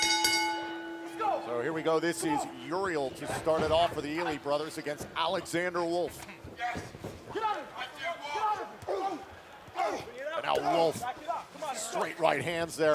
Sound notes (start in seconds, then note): 2.0 bell